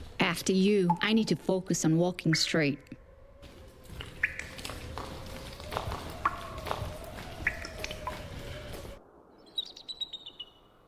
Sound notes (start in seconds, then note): 5.2 water dripping